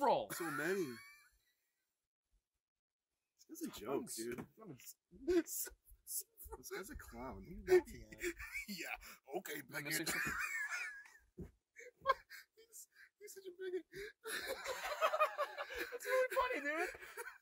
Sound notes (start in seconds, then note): 0.3 Terry laughs; 5.2 Terry laughs; 13.9 Terry laughs; 14.2 Richard laughs sarcastically; 17.1 Terry laughs